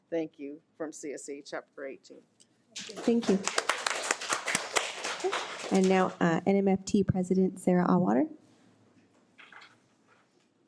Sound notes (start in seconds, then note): 2.8 audience applause